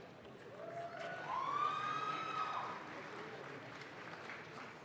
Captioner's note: audience claps